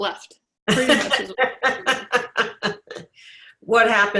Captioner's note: laughs